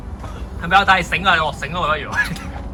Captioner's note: laughs